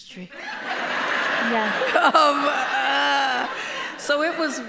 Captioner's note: audience applauding